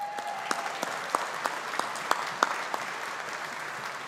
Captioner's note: audience applauding